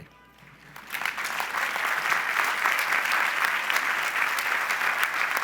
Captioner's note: audience applauds